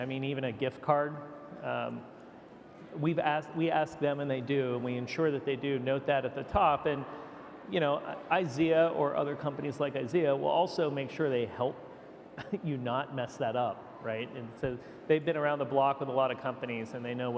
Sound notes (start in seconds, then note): 12.7 laughs